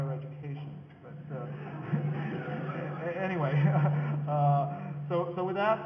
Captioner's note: audience laughing